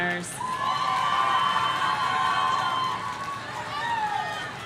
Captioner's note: audience cheering